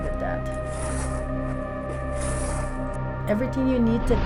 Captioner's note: scraping